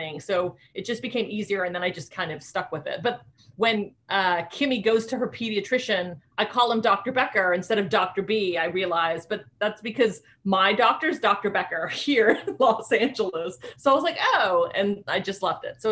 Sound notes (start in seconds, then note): 13.1 chuckling